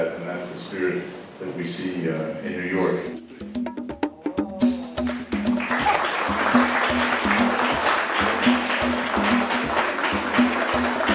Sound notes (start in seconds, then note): 5.1 applause